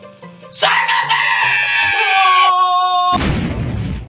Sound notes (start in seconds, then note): 2.2 Asgore dying noises